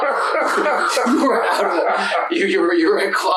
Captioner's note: laughter